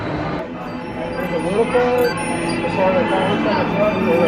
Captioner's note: machine beeping; indistinct chatters